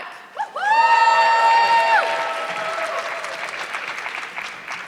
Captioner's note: audience clapping